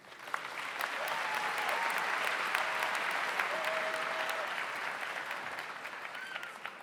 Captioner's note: audience applauds; audience cheers